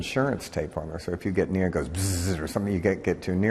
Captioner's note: buzzes